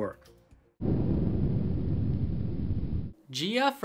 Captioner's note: rocket engine